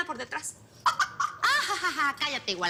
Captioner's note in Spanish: Risas